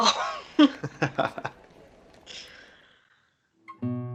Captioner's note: they both laugh